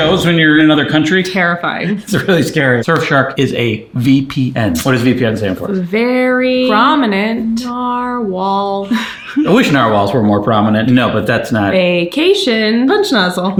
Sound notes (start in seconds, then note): 8.8 chuckling